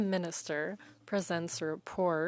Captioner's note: speaking French